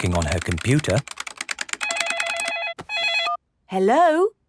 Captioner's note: phone ringing